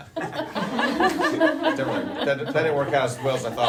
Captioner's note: laughing